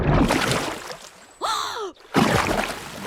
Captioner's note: gasps